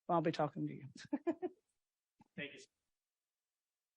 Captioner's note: laughs